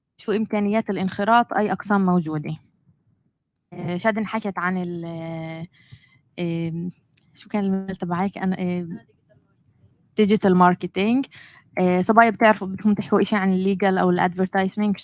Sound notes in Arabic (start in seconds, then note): 10.2 لغة أجنبية; 13.9 لغة أجنبية